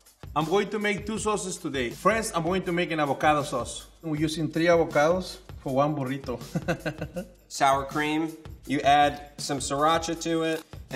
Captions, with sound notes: - I'm going to make two sauces today. First I'm going to make an avocado sauce. We're using three avocados for one burrito. [laughing] - Sour cream, you add some sriracha to it.